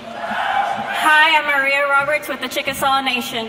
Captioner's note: speaks in Native American